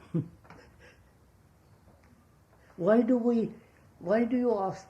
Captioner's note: laughs